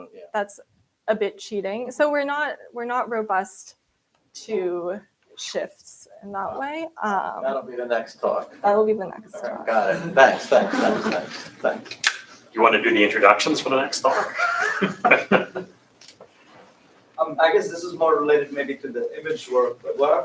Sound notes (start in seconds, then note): 14.0 laughter